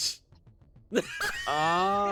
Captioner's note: laughs